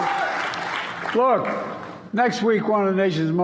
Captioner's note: applause